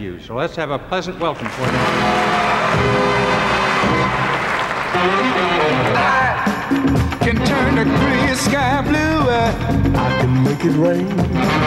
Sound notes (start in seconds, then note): 1.2 crowd applauds; 3.3 soft r&b music